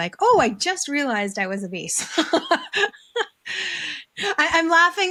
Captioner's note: both laughing